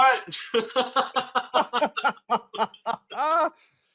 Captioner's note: both laugh